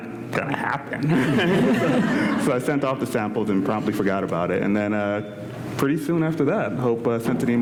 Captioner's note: laughter